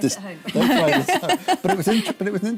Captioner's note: laughter